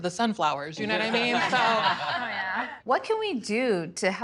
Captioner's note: laughter